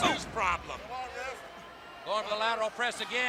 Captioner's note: crowd chatter